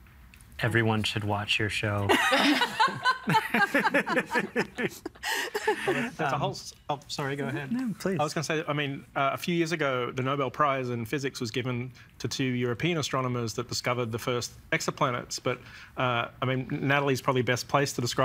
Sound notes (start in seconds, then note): 2.1 all laughing